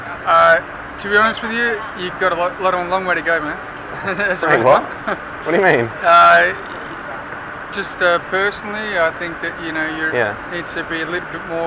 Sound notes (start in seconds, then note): 3.8 laughs